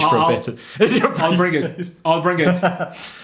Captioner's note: laughs